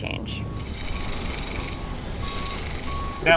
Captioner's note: drill whirring